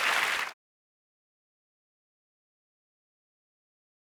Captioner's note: applause